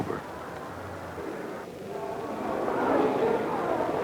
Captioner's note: street traffic; indiscriminate background chatter